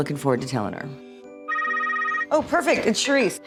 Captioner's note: phone rings